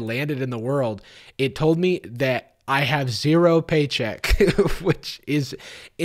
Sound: chuckles

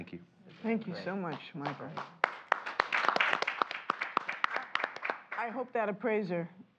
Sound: applause

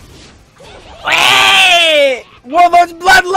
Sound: loud dying noise

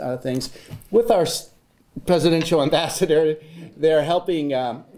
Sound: none

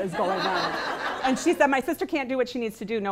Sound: laughing

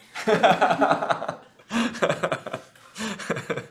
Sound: laughing

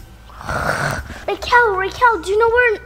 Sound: growling

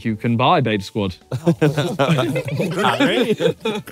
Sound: all laughing

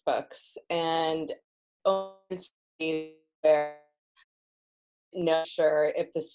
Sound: audio fades out

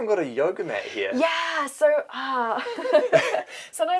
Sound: laughter

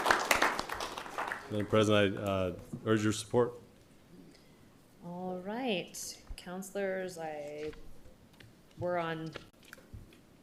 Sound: applause

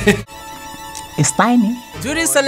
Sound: laughs

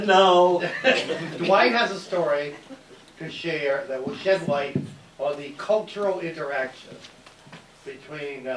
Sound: laughs

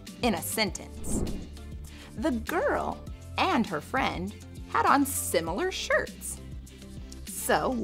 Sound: air whooshing

